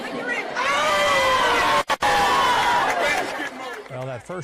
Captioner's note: people exclaiming